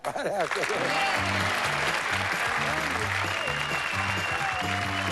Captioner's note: cheering, theme music playing